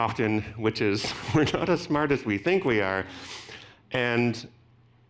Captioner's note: laughing